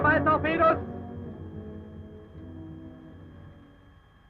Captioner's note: man speaking German